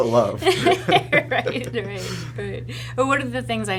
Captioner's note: laughing